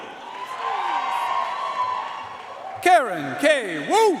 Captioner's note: audience cheering and applauding